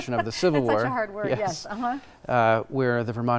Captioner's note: laughing